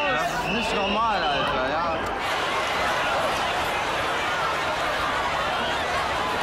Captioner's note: overlapping shouting